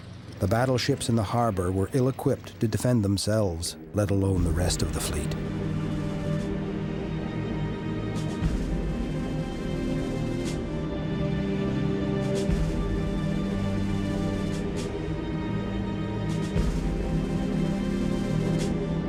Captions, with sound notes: The battleships in the harbor were ill-equipped to defend themselves let alone the rest of the fleet. (dramatic instrumental music) (plane engines rumbling)